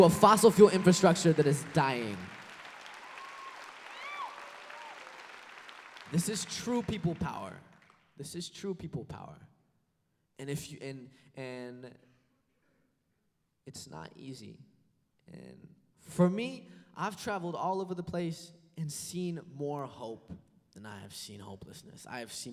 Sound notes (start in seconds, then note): 2.8 applause